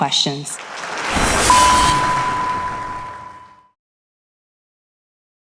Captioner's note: audience applauding; beeping